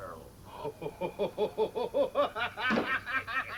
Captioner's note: laughing